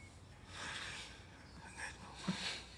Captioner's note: whispers; laughs quietly